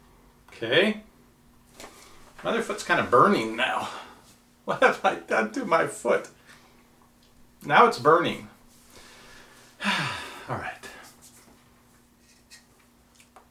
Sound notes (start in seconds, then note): 9.8 sighs